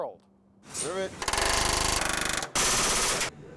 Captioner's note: various loud drilling